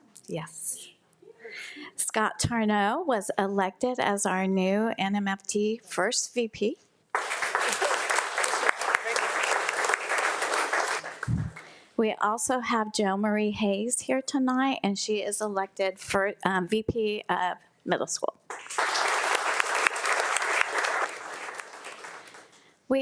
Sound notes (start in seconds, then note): 7.1 audience applauding; 18.5 audience applauding